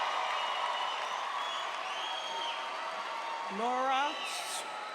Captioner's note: cheers and applause